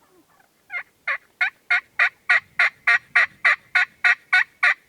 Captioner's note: turkey call